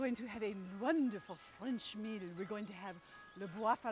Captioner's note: speaks in foreign language